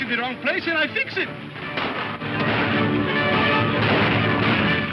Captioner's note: guns firing